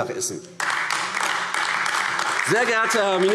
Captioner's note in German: Beifall AfD